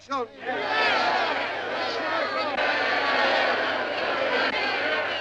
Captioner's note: group shouting yes